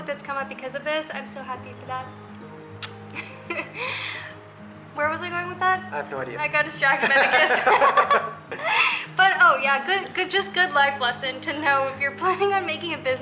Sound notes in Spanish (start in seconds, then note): 3.5 Risas